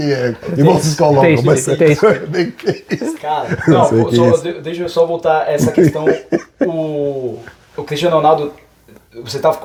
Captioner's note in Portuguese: risadas